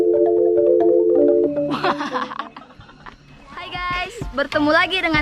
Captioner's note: laugh